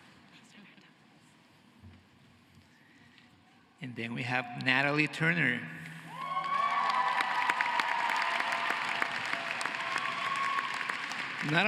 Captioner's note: cheering and applause